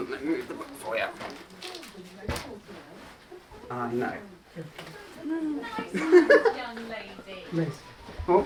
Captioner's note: laughs